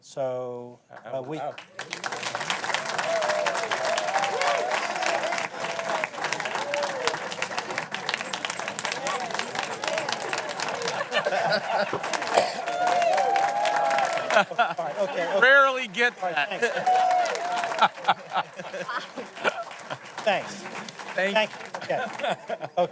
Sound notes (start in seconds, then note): 2.4 applause; 4.8 �cheers and applause�